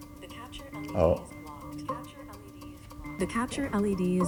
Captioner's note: electronic Voice